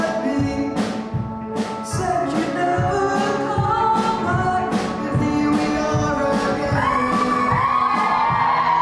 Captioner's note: audience cheers